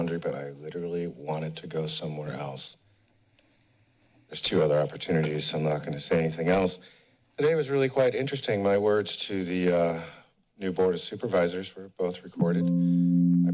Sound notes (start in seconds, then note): 2.9 pause